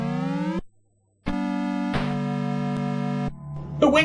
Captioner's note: Master System sounds